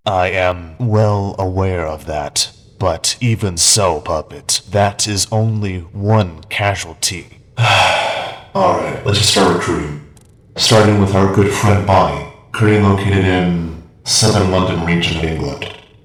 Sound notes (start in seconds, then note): 7.6 sighs